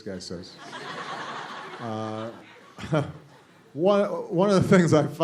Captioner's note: laughter